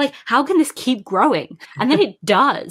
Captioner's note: laughs